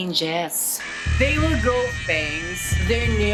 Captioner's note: screaming